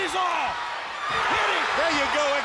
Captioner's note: audience cheering